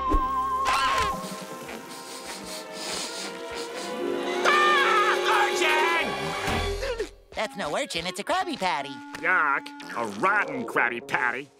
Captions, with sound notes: [sniffing] [screaming] Urchin! That's no urchin, it's a Krabby Patty. Yuck. A rotten Krabby Patty.